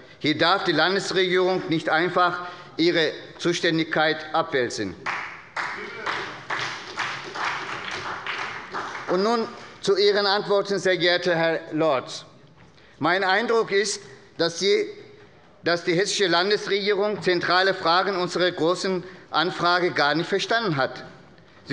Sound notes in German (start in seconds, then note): 5.0 Beifall bei der SPD